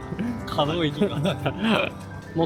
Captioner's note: laughs